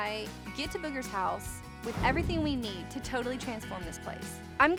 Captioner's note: none